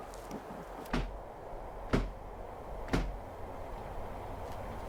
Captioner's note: door thumping